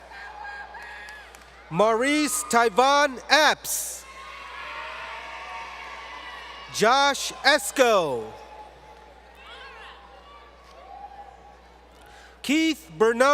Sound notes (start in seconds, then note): 8.7 crowd Cheering